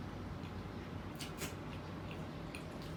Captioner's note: big crunch